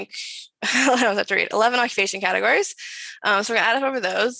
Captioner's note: chuckles; speaks faintly